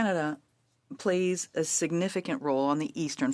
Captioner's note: speaking French